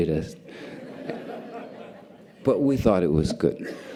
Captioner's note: audience laughter